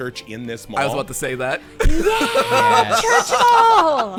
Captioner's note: laughing